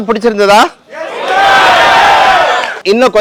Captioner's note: crowed cheers